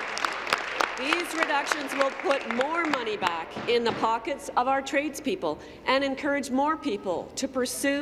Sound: applause

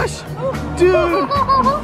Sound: laughing

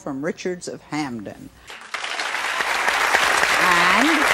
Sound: applause

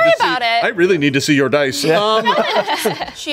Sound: everyone laughs

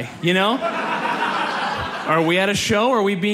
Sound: audience laughs

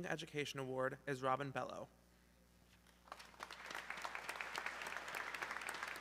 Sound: audience clapping

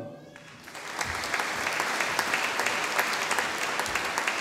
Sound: audience applauding

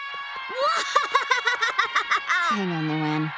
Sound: laughing

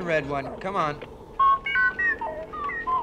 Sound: beep Beep

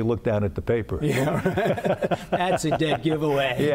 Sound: laughter

